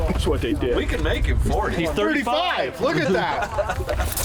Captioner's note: laughing